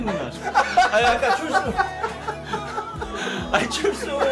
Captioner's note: laughing